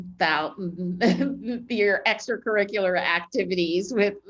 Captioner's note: laughs